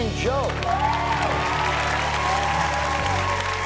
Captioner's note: audience cheers and applauds; orchestral music